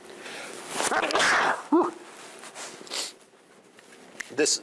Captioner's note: sneezing